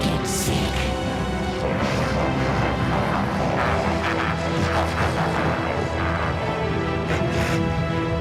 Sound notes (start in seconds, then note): 1.7 maniacal laughter